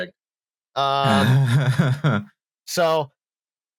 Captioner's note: laughs